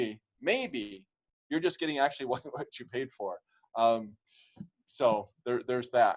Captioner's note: laughter